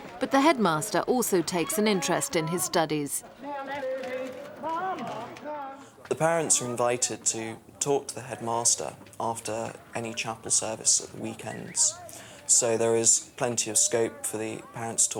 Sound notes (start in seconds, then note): 3.7 cameras clicking; 3.7 photographers chattering